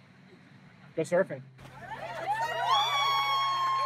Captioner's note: cheering